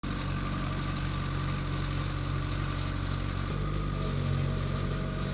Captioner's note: skid steer engine humming